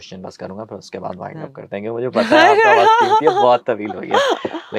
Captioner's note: laughs